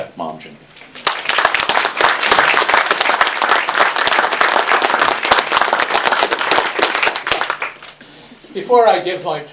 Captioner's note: applause